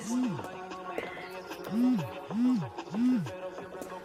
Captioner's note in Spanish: Vibra el celular